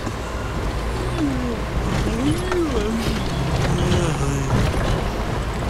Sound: yawning

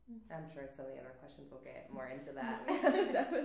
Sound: laughs

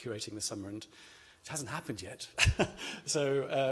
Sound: laughs

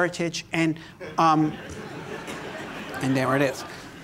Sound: laughter

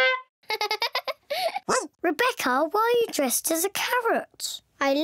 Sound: honks horn; giggles; barks

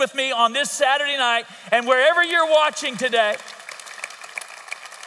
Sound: audience applauds

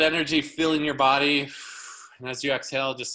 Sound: exhaling loudly

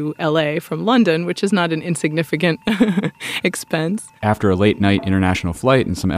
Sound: laughs

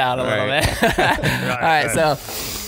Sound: laughing

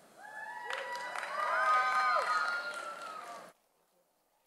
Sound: audience applauds

